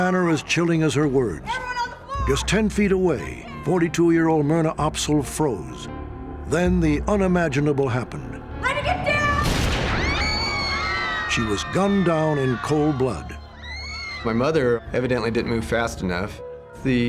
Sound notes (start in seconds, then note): 9.4 gunshot; 9.8 screaming